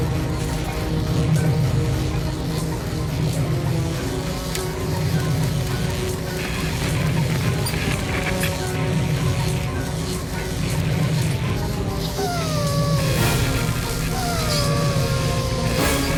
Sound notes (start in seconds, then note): 12.2 sniffing